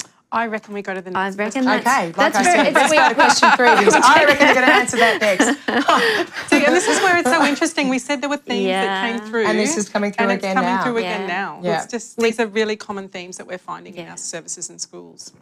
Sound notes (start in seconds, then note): 2.4 laughter